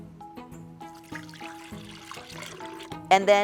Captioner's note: almond milk gurgling